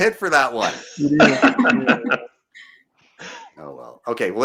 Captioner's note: laughing